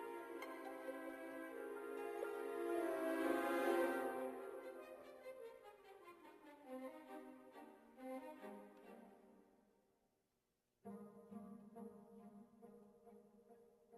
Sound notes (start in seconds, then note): none